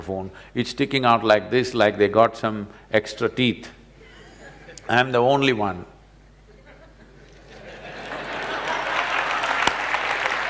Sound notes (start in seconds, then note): 6.6 laughter/Applause; 6.6 笑聲/掌聲